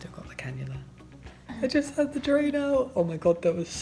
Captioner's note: high pitched voice